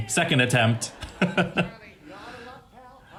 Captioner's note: laughs